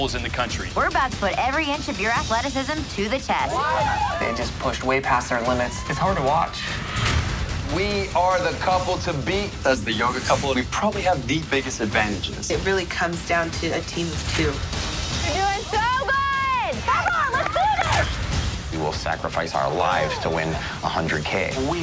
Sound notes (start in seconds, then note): 3.4 screams